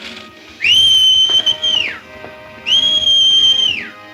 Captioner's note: Montana whistles